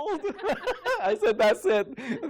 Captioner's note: laughter